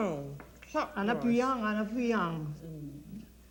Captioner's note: speaks French